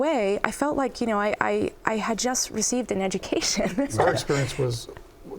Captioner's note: laughs